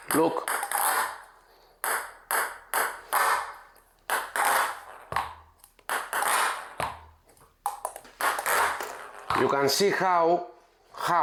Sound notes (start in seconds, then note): 1.8 ball bouncing